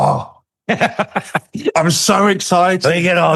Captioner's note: laughing